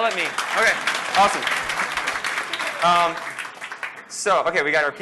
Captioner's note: applause